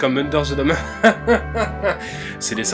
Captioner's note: most ironic laugh ever